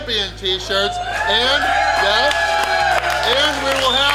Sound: people cheering and clapping

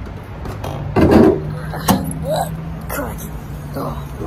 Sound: tailgate creaks

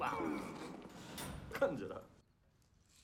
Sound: coughing

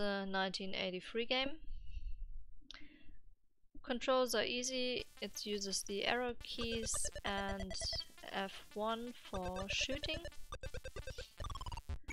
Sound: game sounds

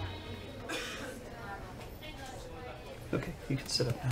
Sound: patient coughing

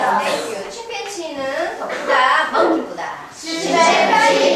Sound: speaking foreign language

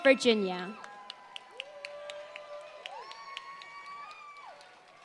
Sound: applause

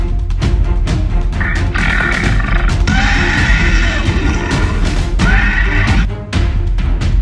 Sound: dramatic music; dinosaur screeching

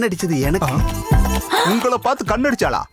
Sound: gasps

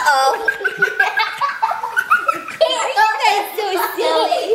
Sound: laughs

